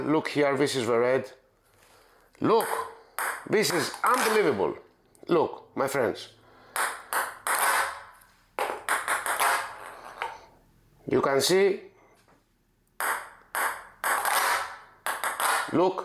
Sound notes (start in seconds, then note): 6.9 ball bouncing; 12.9 ball bouncing